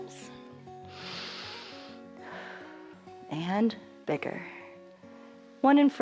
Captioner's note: inhales and exhales